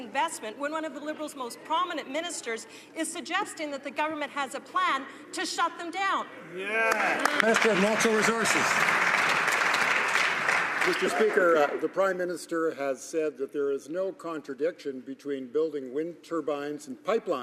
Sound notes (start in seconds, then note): 9.9 some Applause